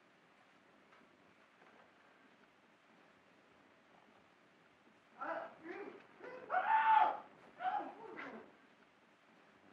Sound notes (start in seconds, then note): 6.3 Clive screaming